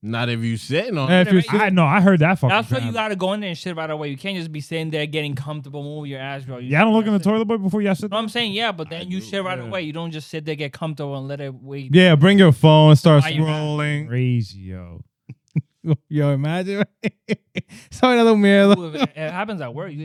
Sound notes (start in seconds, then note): 15.3 laughing; 17.9 speaking In Foreign Language